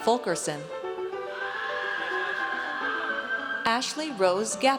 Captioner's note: audience cheers